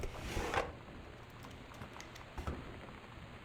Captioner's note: rattling